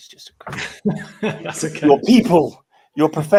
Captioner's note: laughs